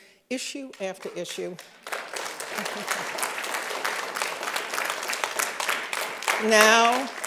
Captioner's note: applause